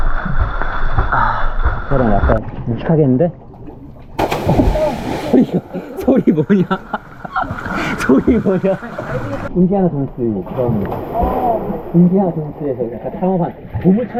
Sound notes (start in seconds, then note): 3.8 splash; 7.8 big splash makes us laugh